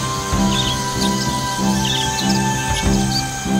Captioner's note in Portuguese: música de aventura continua; canto de pássaros; zumbido de insetos